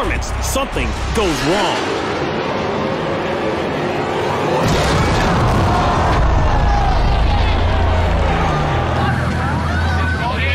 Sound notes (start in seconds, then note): 5.3 spectators gasping